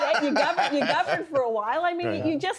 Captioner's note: laughter